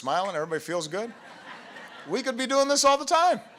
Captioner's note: laughter